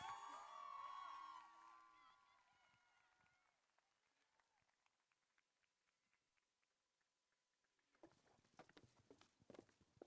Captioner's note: applause